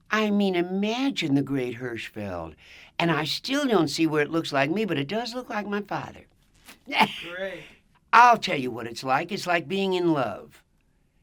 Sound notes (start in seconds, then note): 6.8 laughs